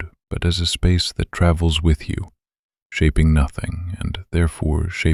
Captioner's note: quiet and steady